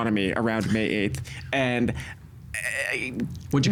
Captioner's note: making hesitant noise